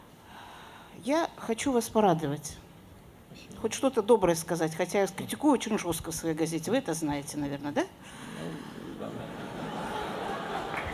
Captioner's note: laughter